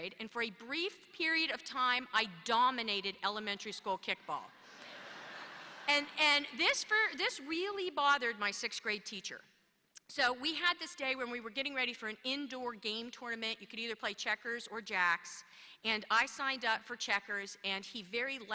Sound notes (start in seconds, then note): 4.8 laughter